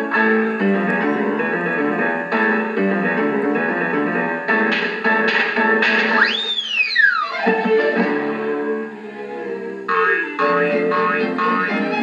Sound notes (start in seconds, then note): 7.4 thud Thud; 9.9 boing Boing Boing